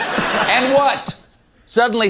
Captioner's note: audience laughter